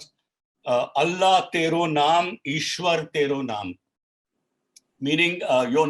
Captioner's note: speaking in foreign language